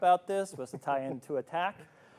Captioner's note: laughs